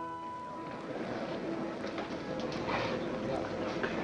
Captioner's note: crowd muttering